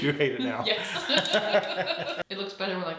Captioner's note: both laughing